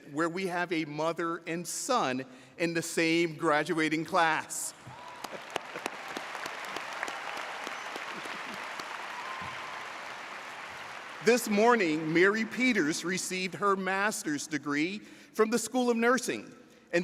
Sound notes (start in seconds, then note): 4.8 audience cheers